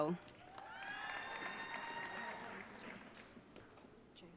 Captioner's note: audience cheering